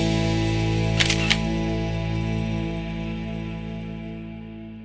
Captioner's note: camera shutter clicks